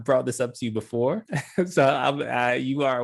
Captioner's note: laugh